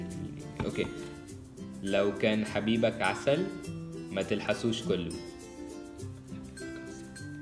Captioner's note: Arabic